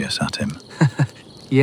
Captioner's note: laughs